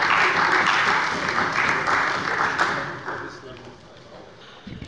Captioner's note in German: Beifall bei der CDU